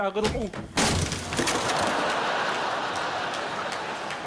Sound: guitar breaks

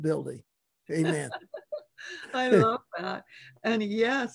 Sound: laughs

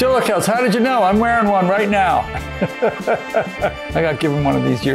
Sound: laughs

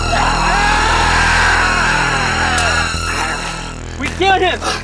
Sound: Adriel screaming

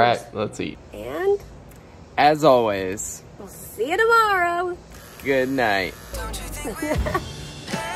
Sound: laughs

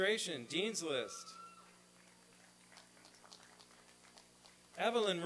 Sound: applause and cheering

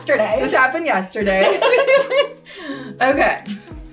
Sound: both laugh

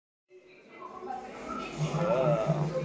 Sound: sounds of a busy restaurant; groaning sounds as I look at the menu

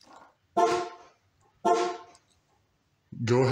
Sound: alarm beeps twice

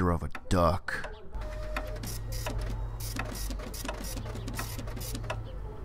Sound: printer noises

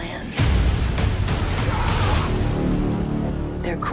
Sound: screaming

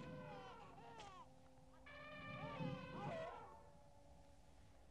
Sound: baby crying

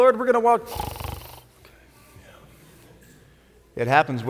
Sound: snoring

